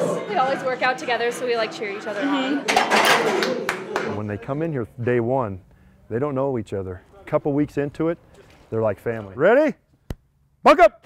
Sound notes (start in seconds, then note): 3.4 clapping